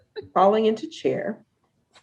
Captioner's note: laughs